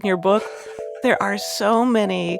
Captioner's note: chuckling